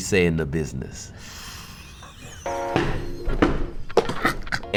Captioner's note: laughs